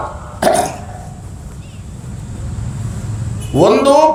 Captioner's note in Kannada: ಗಂಟಲು ಸರಿಮಾಡಿಕೊಳ್ಳುವಿಕೆ